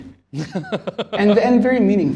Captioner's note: laughter